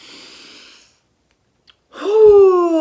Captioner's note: inhaling; exhaling